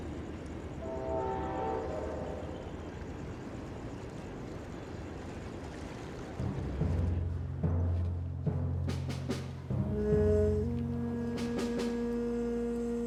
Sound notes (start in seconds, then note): 0.7 train whistling; 8.5 dramatic music